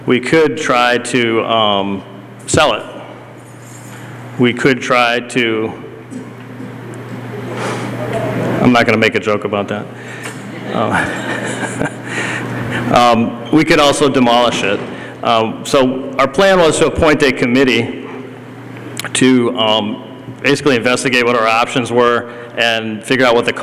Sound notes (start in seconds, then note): 10.5 laughter